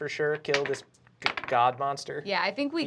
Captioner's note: rolls dice